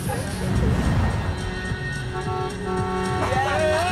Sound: laughing; horn honking

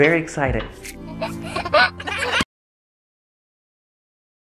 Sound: child laughs

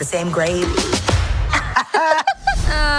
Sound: laughing

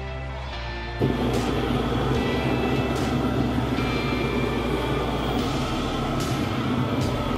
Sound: slow dramatic rock music; flamethrower roaring

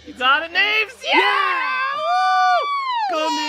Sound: cheering

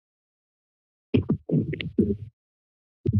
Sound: mic thumps

